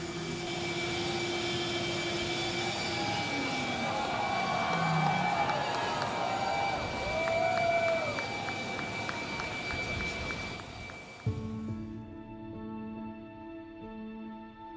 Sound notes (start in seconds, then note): 2.5 crowd cheering; 12.3 dark music